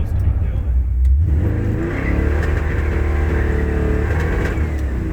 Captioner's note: car engine roaring